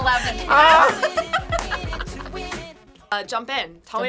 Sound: laughs

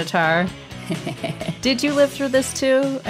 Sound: Quan laughing

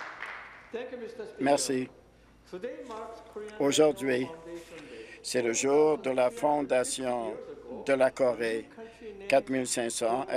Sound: applause

